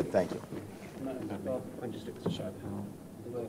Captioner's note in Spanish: charla indistinguible